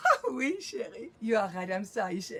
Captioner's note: Pauline speaking in French